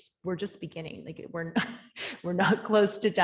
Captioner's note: laughing